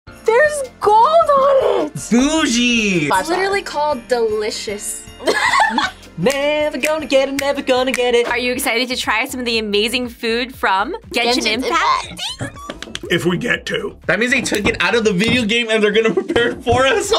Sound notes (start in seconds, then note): 5.2 laughs; 11.7 squeals